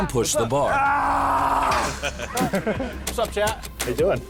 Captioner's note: screaming and groaning; laughter